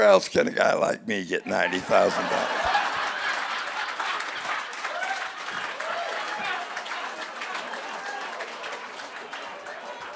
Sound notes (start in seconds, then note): 1.4 audience laughing